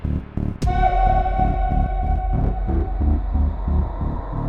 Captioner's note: image shrieks